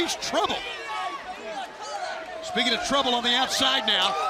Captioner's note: crowd chatter